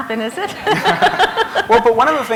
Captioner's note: laughter